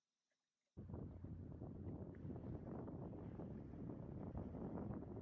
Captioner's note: wind whipping